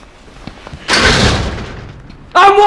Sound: clunking

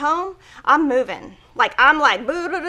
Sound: burbling

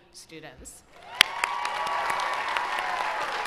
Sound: applause

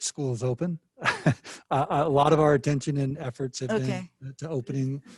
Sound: laughs

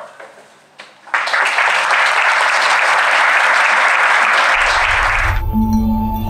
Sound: applause

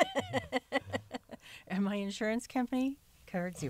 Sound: laughter

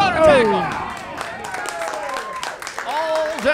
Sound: audience cheering

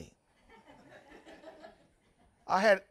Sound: audience members laughing

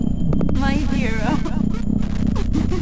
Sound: in static

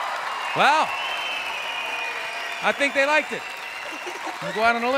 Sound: audience applauding; giggling

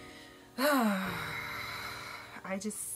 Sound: deep sigh

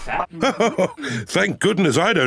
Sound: laughs

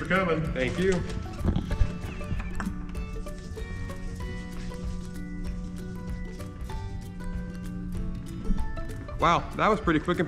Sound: disinfectant squirts and he rubs his hands together

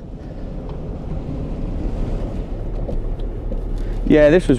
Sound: car rumbling quietly

